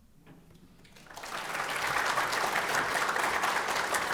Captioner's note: audience applauds